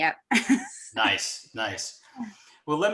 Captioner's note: chuckles